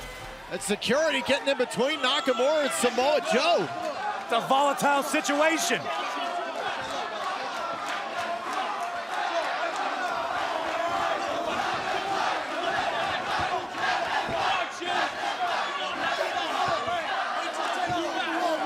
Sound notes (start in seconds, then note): 6.7 fans chanting